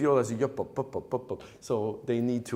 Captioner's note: humming viola part